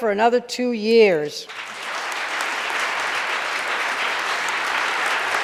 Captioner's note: audience applauding